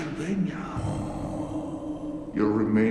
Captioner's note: moans